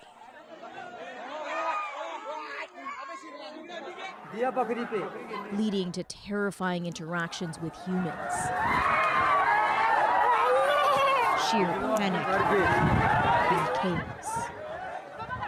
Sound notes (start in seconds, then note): 7.9 speaking Foreign Language